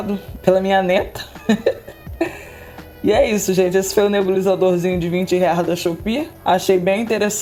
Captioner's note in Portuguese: risadas